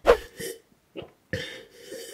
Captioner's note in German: Schlürfen